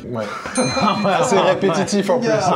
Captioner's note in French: rires